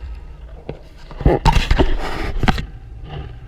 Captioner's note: GoPRO HINGE CREAKING